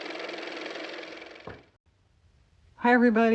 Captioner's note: car motor